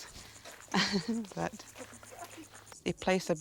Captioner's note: chuckles